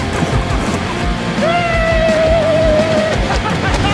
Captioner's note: laughing and Woo'ing as he passed